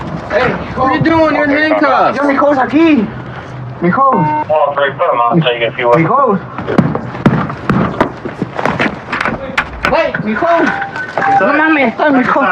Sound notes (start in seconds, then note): 2.2 spepeakaking g spspanis; 6.4 spepeakaking g spspanis